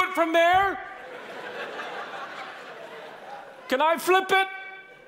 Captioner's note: audience laughing